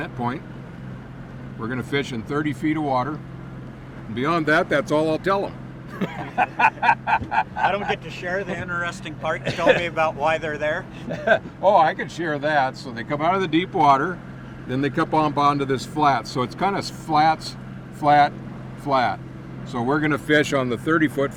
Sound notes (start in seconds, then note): 5.9 laughing